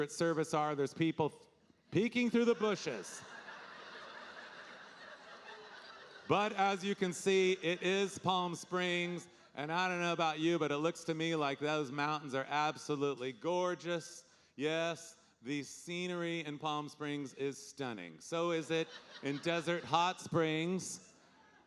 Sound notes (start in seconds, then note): 2.4 audience laughing